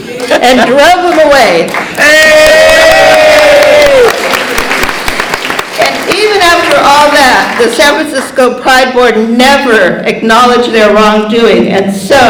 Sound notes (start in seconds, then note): 0.8 cheering & Clapping